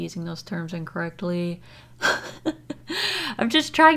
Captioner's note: laughs